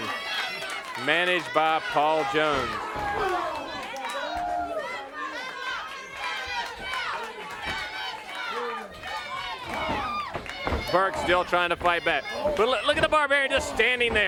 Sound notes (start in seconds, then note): 3.4 crowd cheering